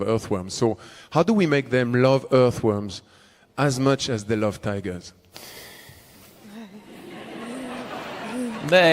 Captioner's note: laughter/Applause